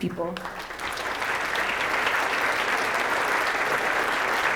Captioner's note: applause